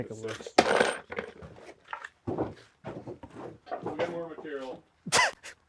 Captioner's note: hardware rattling